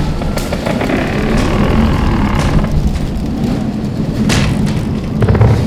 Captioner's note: house creaking eerily